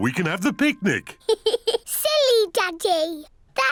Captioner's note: giggles